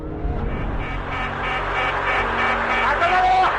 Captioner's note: plane warning beeping